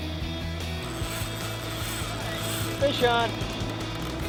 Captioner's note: drag Reel Screams